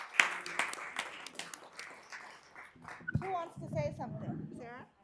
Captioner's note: applause